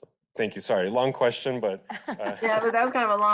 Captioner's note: laughs